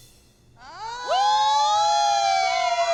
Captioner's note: dance moms cheering